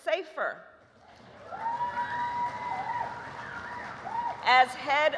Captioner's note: applause